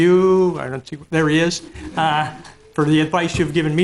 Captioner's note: laughing